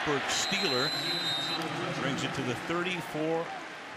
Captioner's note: whistle